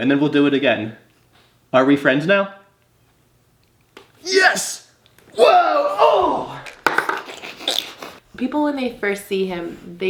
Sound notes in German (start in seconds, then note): 5.3 grunzt; 7.0 lacht